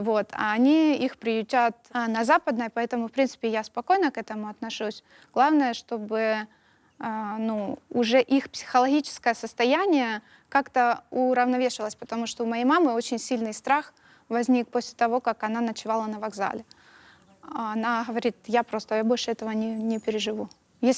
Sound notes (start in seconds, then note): none